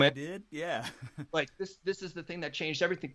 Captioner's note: laughing